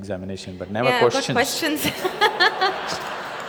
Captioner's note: laughs